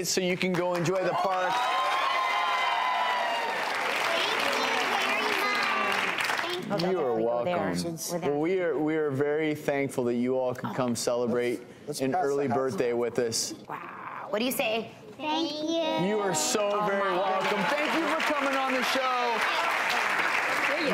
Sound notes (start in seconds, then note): 2.3 applause